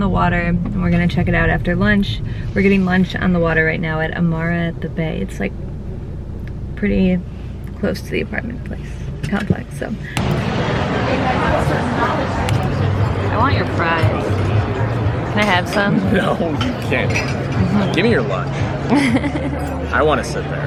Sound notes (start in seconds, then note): 18.8 giggles